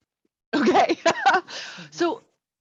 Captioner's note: laughs